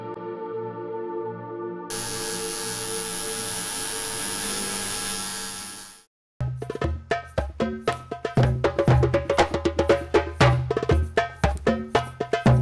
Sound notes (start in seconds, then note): 1.9 needle buzzing; 6.4 upbeat drumming music